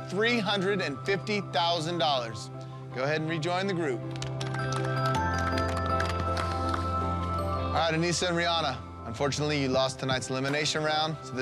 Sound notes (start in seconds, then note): 4.1 clapping